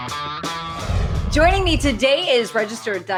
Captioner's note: upbeat music; title swooshes